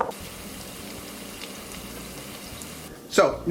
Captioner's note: sizzling